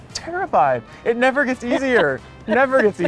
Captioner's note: laughing